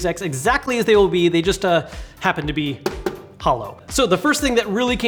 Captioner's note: taps case